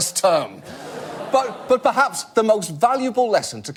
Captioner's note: audience groan